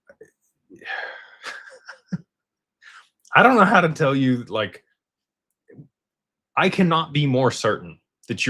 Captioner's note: sighs